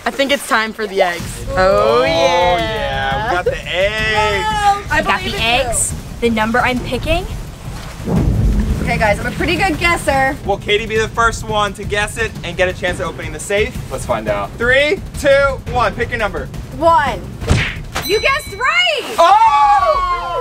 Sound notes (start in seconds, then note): 18.0 bell; 19.1 crowd screams and laughs